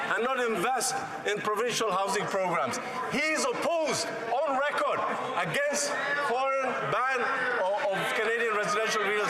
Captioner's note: yelling